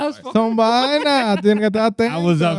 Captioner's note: speaking Spanish